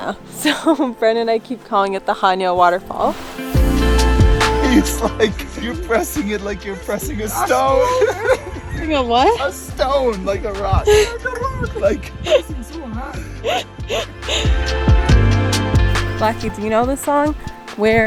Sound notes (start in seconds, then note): 2.9 gentle light music continues; 4.6 laughing amusingly; 7.0 everyone laughing amusingly; 10.8 laughing amusingly; 14.3 laughing amusingly